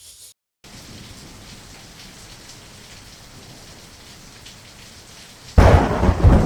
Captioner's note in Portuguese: Sons de chuva